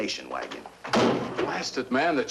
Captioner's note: bang